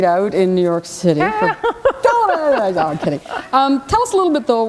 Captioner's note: laughter